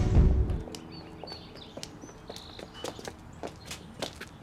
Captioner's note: birds chirping